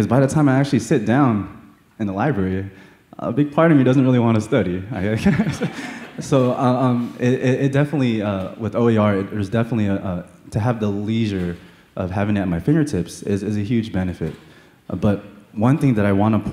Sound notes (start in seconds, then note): 5.1 laughter